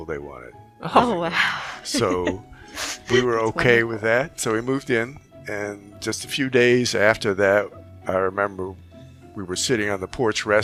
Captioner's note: laughing